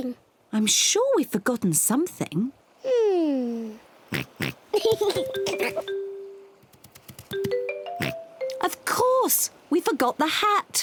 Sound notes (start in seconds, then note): 4.1 oinks; 8.0 oinks